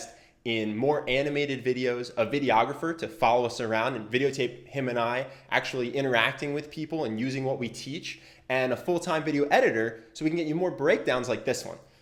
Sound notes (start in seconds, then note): none